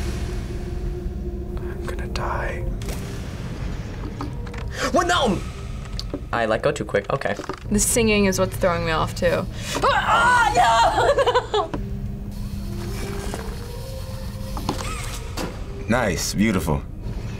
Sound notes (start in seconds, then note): 9.8 shouts and laughs